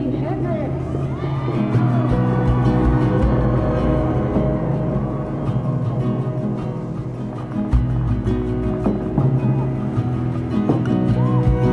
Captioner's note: crowd cheers